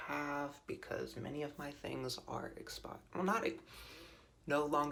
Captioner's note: inhales sharply